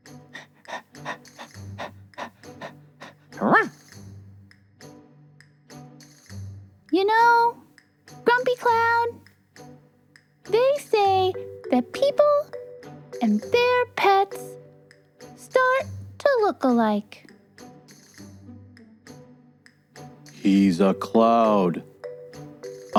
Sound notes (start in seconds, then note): 0.2 panting; 3.2 bark